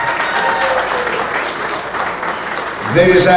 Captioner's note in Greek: χειροκροτημα